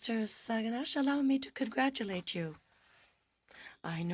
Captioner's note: speaking French